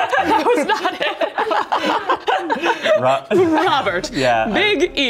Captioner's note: laughing